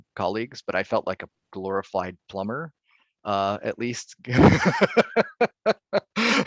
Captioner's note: laughing